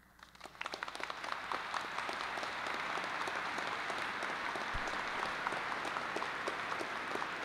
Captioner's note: applause